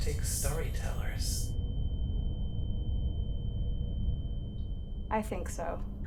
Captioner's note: high pitched tone